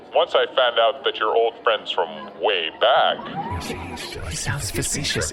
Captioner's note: whispering